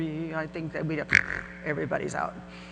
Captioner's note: makes a Bronx cheer